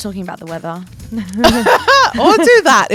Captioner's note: both laugh